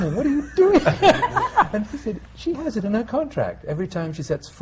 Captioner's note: laughter